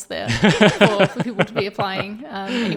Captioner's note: laughing